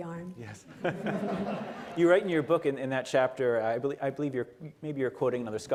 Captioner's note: laughter